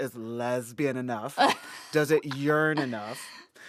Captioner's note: laughter